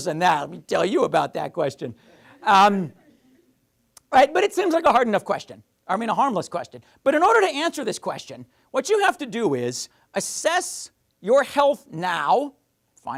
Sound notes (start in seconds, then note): 2.3 audience laughing